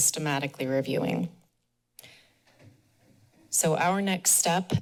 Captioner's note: pause